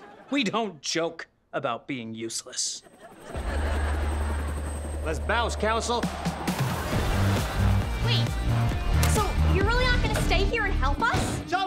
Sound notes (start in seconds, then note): 3.2 helicopter whirring